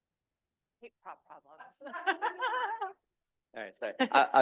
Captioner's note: laughing